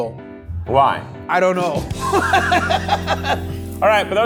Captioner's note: laughs